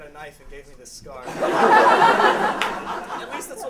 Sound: laughter

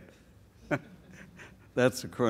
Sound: laughs

